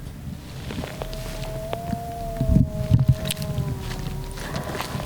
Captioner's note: imitating moose call